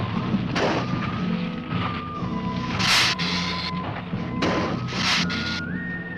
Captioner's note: dramatic music; ground rumbling; lizard hissing